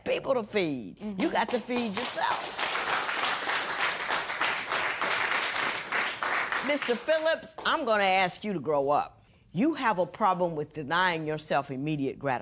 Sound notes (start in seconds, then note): 3.2 applause